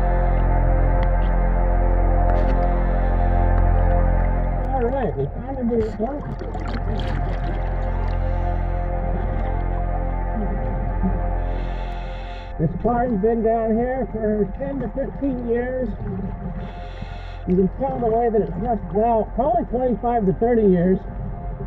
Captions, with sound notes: Alright, we finally made it down to it. (water bubbling) (ominous music) This car has been down here for 10 to 15 years. You can tell the way that it's rusted out, probably 25 to 30 years.